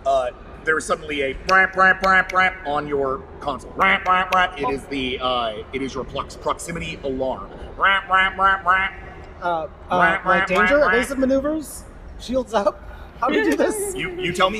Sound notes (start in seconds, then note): 1.8 siren noise